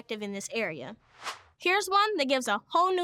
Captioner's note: air whooshes